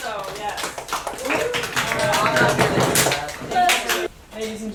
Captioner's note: applause